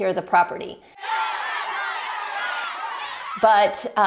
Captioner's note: people cheering